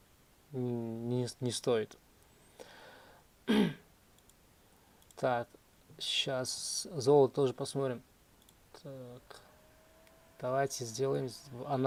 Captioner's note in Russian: откашливается